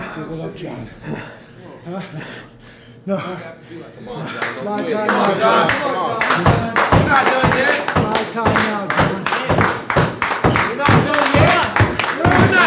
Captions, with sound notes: Huddle up, John. No. No. This is not a timeout, John. [AUDIENCE CHEERING] Not a timeout, John. [AUDIENCE CHEERING]